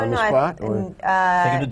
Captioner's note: laughter